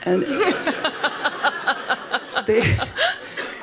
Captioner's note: laughing; laughs